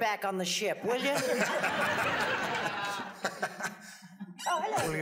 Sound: audience laughs

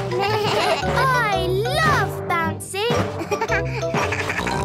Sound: giggles; bleating; giggles, snorts

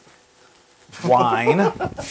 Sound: laugh

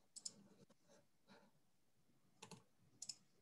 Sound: clicking

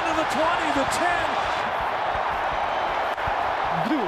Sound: crowd cheering

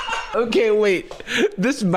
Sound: uncontrollable laughter

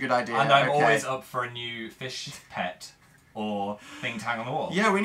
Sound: laughs

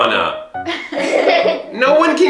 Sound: laughing

